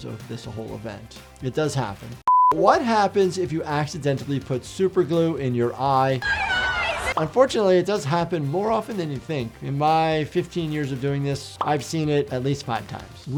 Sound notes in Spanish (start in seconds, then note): 2.2 pitido de pantalla; 6.2 la audiencia se ríe